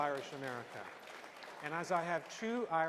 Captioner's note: applause